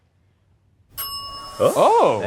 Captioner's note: bell dings